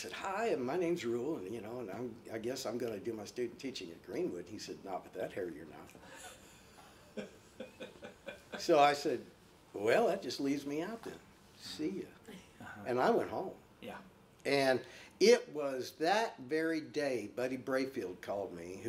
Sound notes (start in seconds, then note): 6.8 laughing